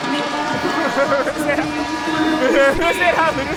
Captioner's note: laughs